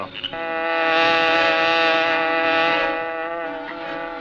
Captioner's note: Black Beauty buzzing